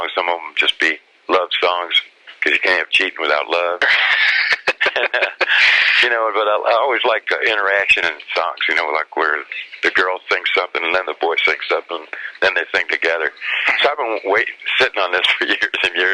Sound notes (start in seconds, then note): 3.8 both laugh; 15.7 laughs